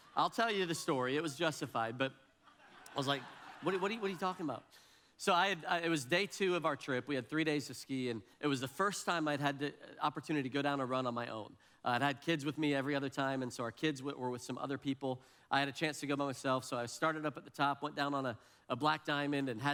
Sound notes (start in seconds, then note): 2.5 audience laughs